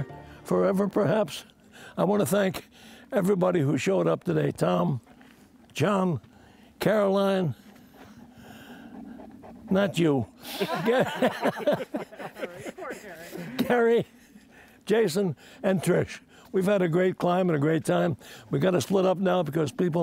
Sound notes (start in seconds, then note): 7.5 dog panting; 10.4 laughter